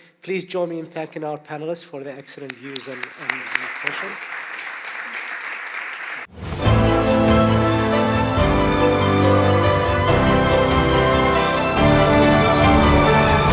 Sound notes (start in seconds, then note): 4.2 applause